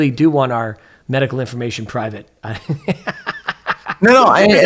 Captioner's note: laughs